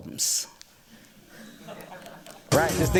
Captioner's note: laughter